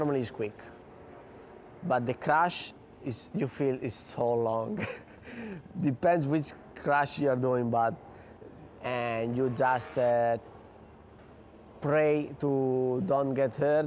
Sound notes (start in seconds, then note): 4.6 chuckles